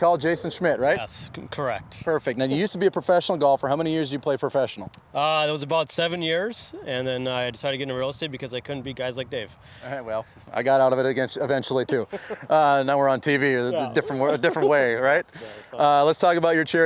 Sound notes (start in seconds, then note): 11.9 chuckling